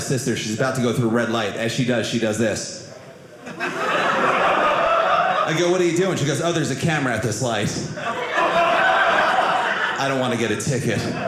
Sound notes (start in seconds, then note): 3.4 audience laughing; 7.9 audience laughing